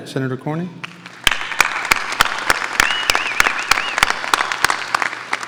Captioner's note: audience applauding